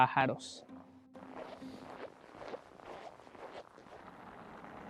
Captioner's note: footsteps on the snow